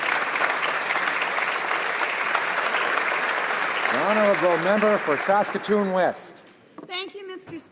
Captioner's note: applause